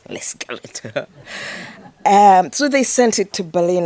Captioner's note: audience laughing